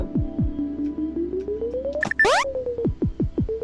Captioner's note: switch beeping